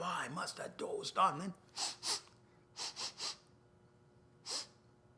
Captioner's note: sniffs